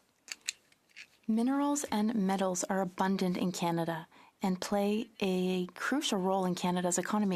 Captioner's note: speaking French